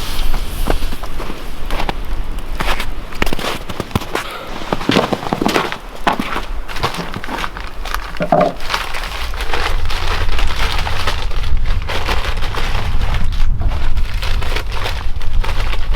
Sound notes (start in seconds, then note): 9.9 paper rustling